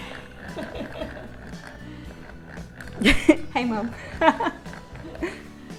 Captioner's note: laughter from the background